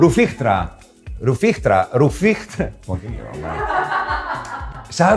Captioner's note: group laughter